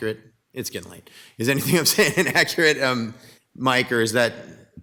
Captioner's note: laughs